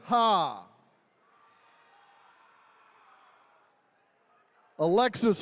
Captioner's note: attendees cheering